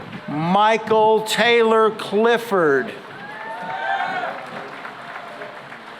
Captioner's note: cheering and applause